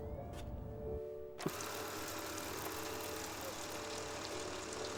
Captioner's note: film reel ticking